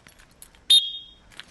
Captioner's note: whistle